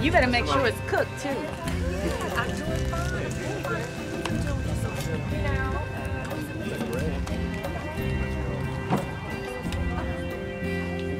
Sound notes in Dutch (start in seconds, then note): 6.1 mensen kletsen